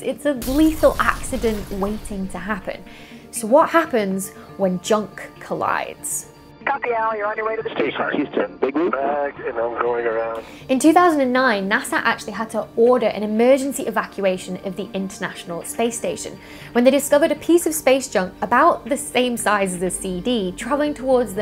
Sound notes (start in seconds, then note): 7.4 radio noise